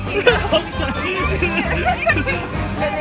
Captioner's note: crying